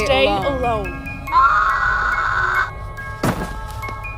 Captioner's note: anonymous scream